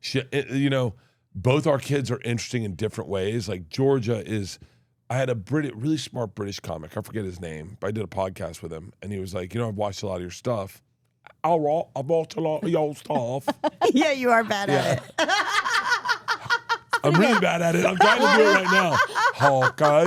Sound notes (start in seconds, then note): 13.3 laughs; 15.8 laughs